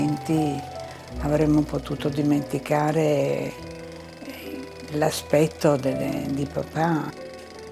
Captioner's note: continues speaking in foreign language